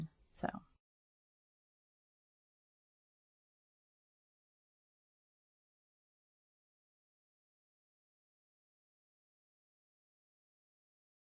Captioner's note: quiet again